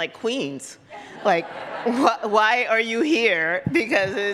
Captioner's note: audience laughs